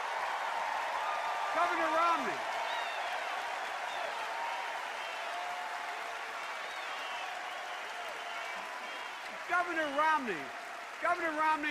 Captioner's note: extended cheers and applause